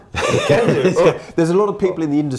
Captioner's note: laughing